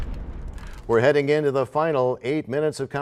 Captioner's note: crashing sound